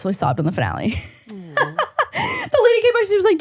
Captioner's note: laughing